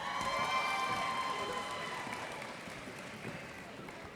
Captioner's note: cheers and applause